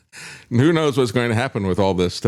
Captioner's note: laughs